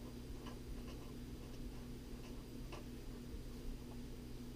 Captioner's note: pen writing on paper